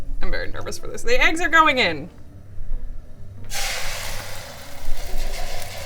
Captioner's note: eggs frying